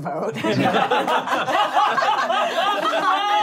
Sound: laughing

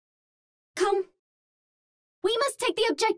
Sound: Vietnamese

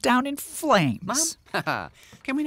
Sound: laughs

